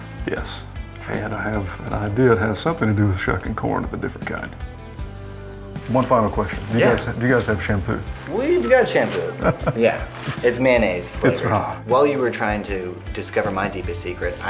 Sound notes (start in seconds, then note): 9.1 laughing